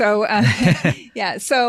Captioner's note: all giggling